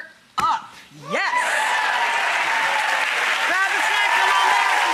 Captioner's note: audience applauds and cheers